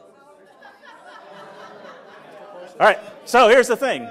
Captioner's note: laughter